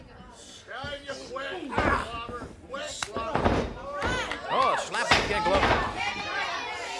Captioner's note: crowd chatter